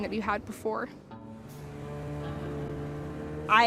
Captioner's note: engine roaring